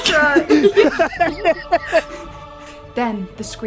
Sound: laughter

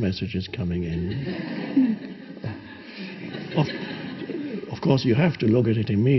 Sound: audience laughing

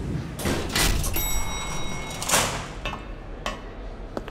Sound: door opens; bell tinkles; footsteps approaching

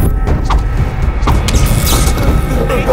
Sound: electrical buzz

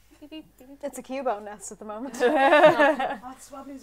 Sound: laughter

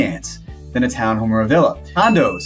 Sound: bell dings

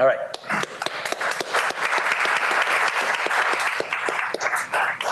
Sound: applause

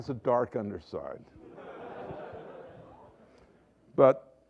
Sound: laughter

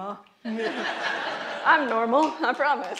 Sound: audience laughs

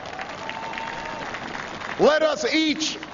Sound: applause

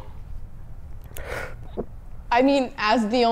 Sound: heavy breath

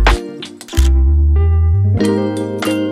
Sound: camera shutter clicks

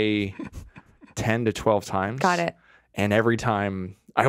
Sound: laughing

